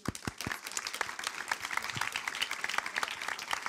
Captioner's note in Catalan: Aplaudiments